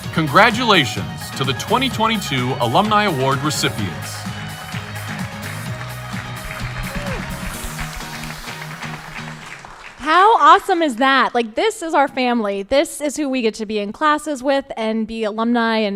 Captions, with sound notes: Congratulations to the 2022 Alumni Award Recipients. (upbeat music) (crowd applauding) - How awesome is that? Like this is our family. This is who we get to be in classes with and be alumni